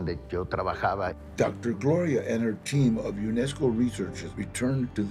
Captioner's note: in English